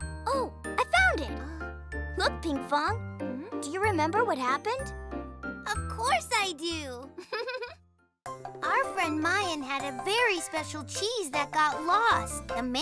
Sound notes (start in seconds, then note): 7.2 chuckles